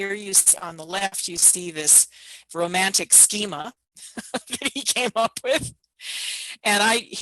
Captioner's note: laughs